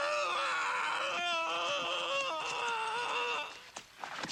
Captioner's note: man screaming